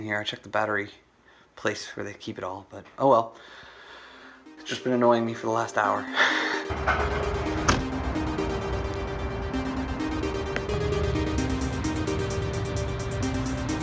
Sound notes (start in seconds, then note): 6.6 laughs; 7.0 electronic music